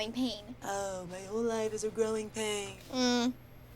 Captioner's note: mockingly